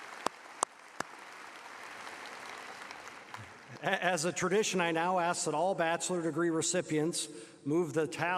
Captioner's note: applause